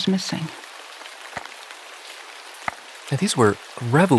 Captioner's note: rain tapping